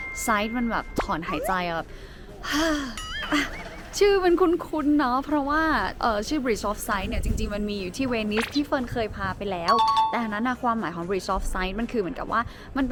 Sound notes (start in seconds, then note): 2.4 sigh